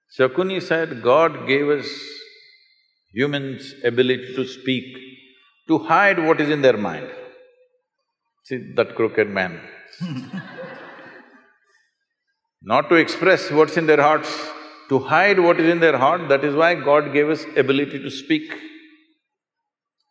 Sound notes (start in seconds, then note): 10.0 laughter